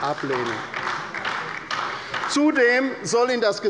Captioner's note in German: Beifall bei der LINKEN